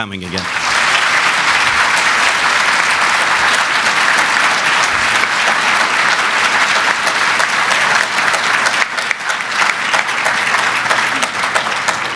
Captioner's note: applause